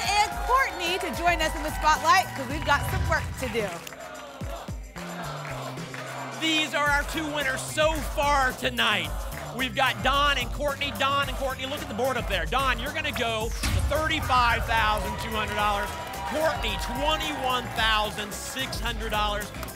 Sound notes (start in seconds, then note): 4.1 audience chanting "double!"